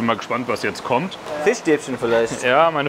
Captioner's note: laughs